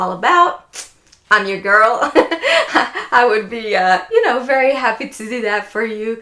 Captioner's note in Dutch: laughs